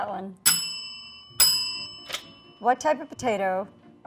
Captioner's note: bell ringing